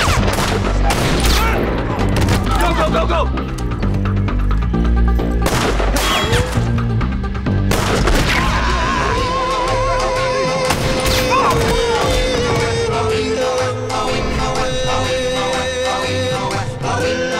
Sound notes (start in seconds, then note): 5.2 gunshots